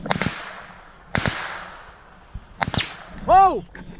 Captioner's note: gunfire